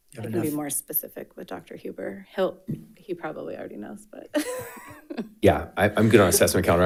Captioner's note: laughs